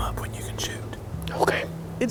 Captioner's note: whispering